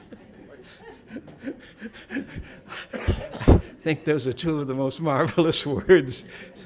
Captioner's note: laughter